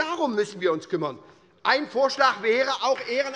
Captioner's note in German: Beifall bei der SPD - Zurufe von der CDU